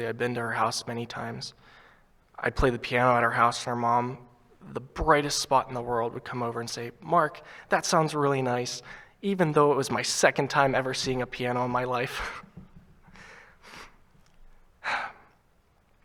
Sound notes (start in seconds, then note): 13.5 chuckles